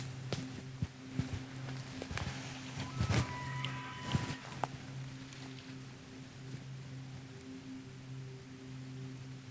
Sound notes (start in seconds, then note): 1.1 twigs snapping underfoot; 2.7 elk calls in distance